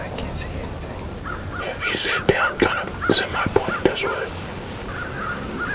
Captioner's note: whispering